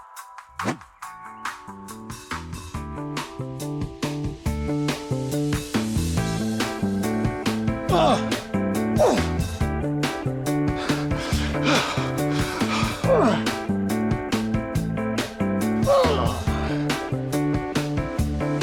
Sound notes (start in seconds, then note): 2.5 upbeat music continues; 7.9 Martin grunts; 13.3 Martin grunts